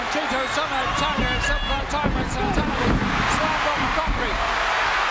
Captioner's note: chattering; audience cheering